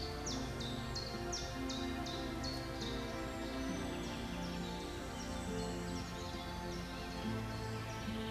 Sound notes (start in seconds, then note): 0.0 nature sounds; 8.0 soft violin music playing in the background